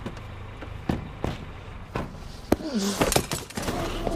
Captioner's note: doors clicking; Nenad grunting